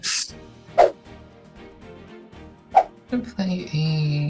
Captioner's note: upbeat music; swooshing